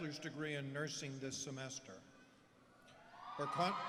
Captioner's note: applause